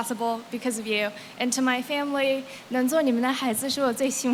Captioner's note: non-english